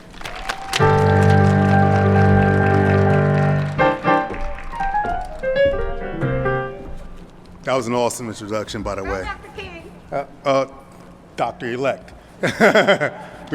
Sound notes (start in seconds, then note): 9.1 Audience member shouts "Go Dr. King"; 12.4 laughs